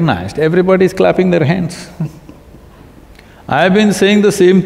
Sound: Piyush Pandey laughs

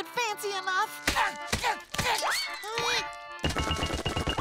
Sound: grunting

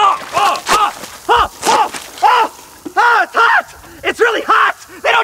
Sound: Shane yelling

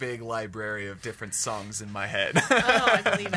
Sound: laughs

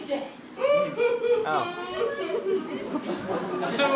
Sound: Heimlich cries

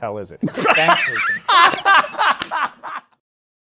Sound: laughter

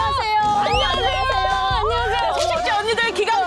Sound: splat

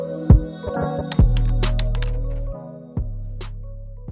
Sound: typing

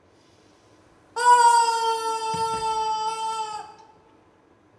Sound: squishy honks

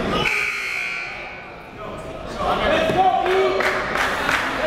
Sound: buzzer dings

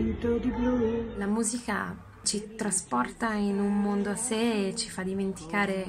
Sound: speaking foreign language

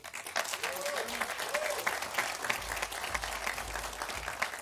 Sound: audience applauding

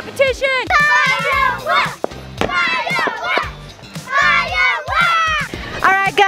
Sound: kids chanting

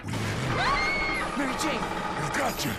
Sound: Mary Jane screams

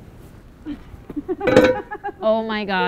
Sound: laughing

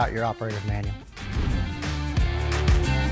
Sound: transition whooshes; upbeat music continues

